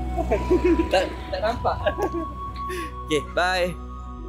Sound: laugh

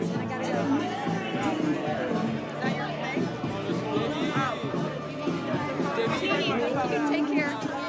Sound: lively chatter

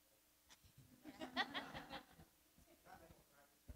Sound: audience laughs

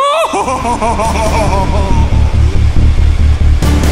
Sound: Ezra cackles off towards freedom

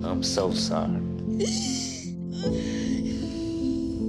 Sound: crying

